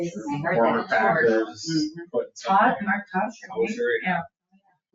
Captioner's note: people chattering